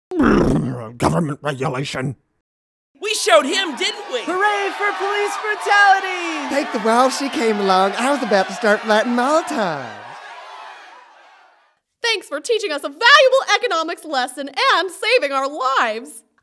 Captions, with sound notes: Government regulation. [Crowd cheers] We showed him, didn't we? Hurray for police brutality! Thank the walls she came along. I was about to start lighting molotovs! Thanks for teaching us a valuable economics lesson and saving our lives.